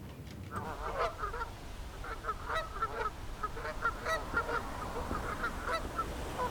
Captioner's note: geese honking